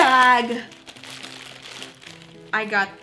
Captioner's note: rips open bag